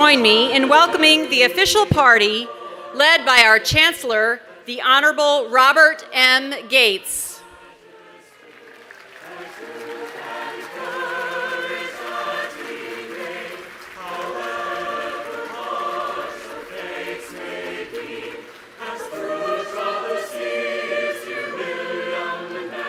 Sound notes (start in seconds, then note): 13.1 applause